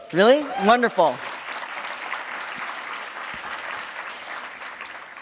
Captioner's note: audience clapping